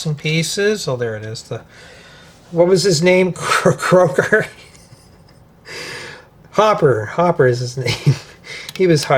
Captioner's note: laughter; gasps